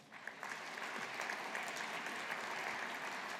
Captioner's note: audience applauding